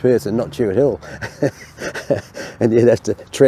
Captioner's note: laughs